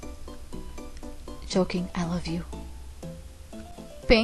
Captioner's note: whisper